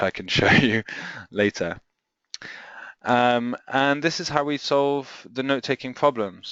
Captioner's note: chuckles